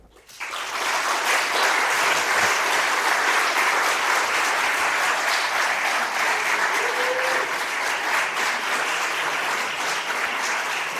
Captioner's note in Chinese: 掌聲